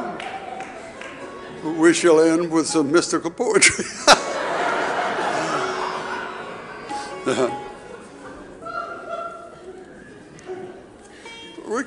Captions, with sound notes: Now, we shall end with some Mystical poetry. (audience laughing) (mystical music)